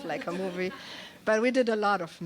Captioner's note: laughter